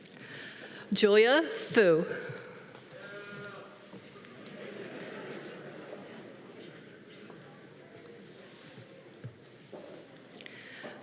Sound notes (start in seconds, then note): 3.6 man cheering; 4.1 audience laughing